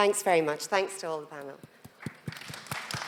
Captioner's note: applause